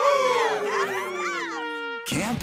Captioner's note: crowd cheering